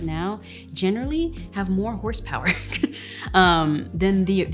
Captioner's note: laughs